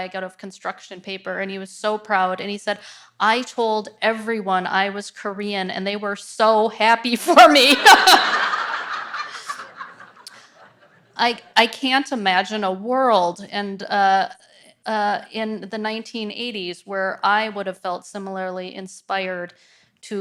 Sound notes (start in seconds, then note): 7.7 audience laughs